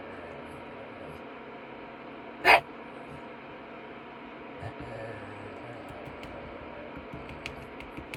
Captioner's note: bark; grrrrrr